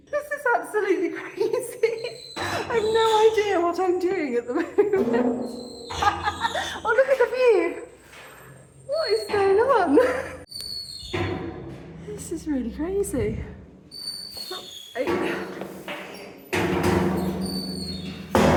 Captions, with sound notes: This is absolutely crazy. [laughing] I have no idea what I'm doing at the moment. [laughing] Oh, look at the view! What is going on? [laughing] This is really crazy. Oops, ay. [loud metal clanging]